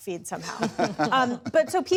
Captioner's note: laughter